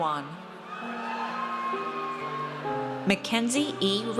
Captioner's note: audience cheers